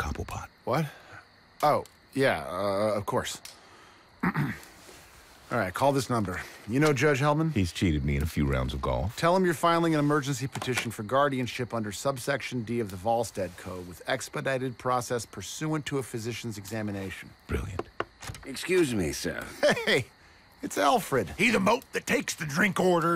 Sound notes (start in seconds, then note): 4.2 clears throat; 17.6 knock on door